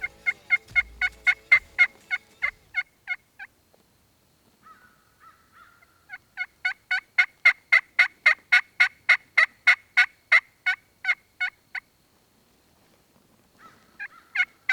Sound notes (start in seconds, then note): 0.0 turkey call; 4.6 crow cawing; 6.4 turkey call